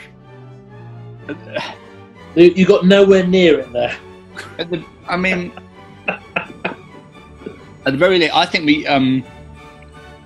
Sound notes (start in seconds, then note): 1.2 sighs; 6.0 chuckling